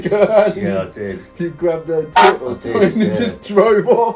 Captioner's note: honk